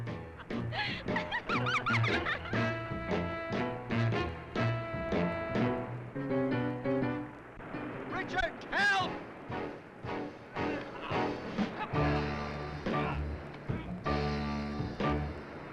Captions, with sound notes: (Jane giggling) (dramatic music) Richard, help! (dramatic music continues) (Tom grunting)